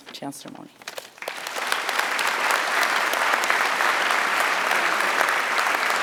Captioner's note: applause